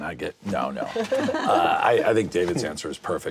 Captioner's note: laughter